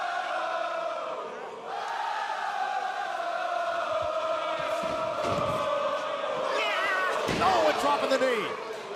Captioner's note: crowd cheering